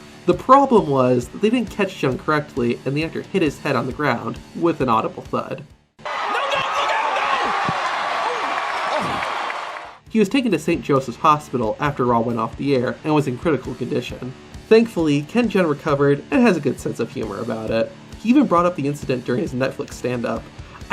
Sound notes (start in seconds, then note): 7.5 audience cheering; 7.5 low thudding